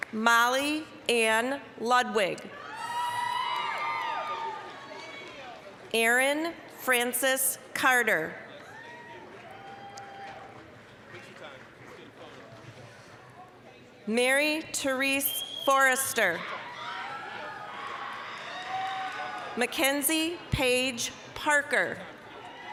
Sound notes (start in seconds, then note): 2.6 applause, cheering; 8.5 applause, cheering; 16.5 applause, cheering; 22.3 applause, cheering